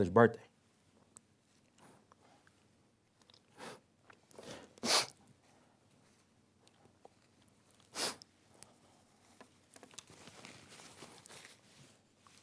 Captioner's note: pause